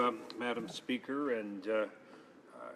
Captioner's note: speaking French